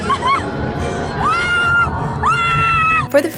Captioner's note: pained laughter; more tortured screaming